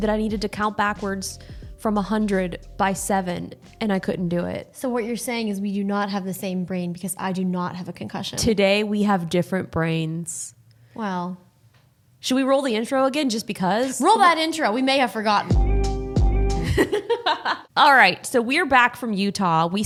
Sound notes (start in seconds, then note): 15.4 upbeat music; 16.6 laughing